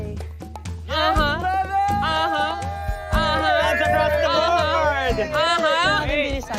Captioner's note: cheering